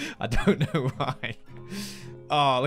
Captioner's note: laughing